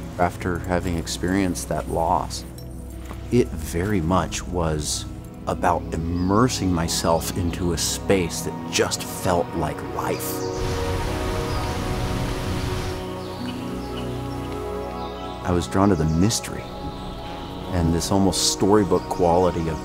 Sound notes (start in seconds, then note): 10.5 water rushing; 11.5 birds chirping